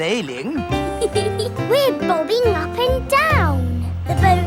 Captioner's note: giggles